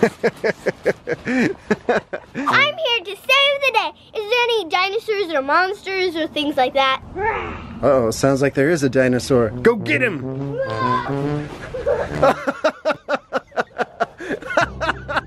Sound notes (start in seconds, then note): 0.0 laughing; 7.4 growling; 11.5 laughing